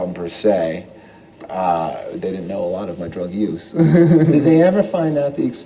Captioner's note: laugh